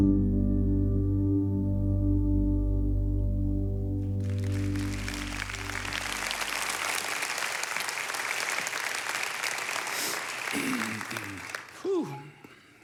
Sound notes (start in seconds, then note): 0.0 gentle music; 4.1 audience applauds